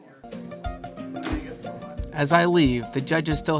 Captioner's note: lighthearted music; judges chattering